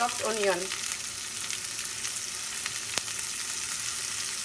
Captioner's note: skillet sizzles